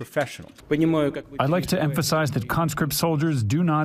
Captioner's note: through translator